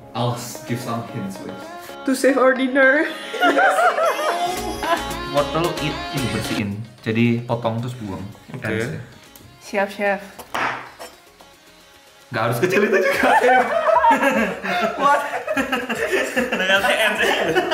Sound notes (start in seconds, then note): 10.4 cutting sound; 12.6 laughing at pathetic cut